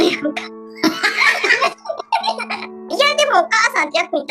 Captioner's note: laughs